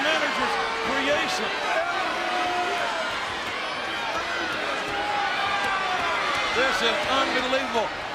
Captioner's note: applause